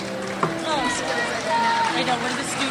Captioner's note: crowd applauds